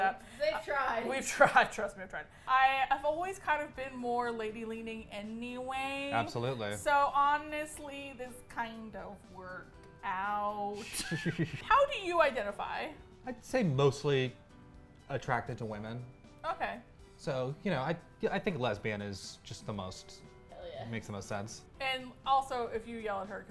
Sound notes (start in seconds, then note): 10.8 both laugh